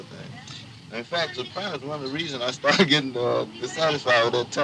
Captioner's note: laughs